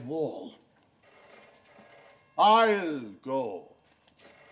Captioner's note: telephone rings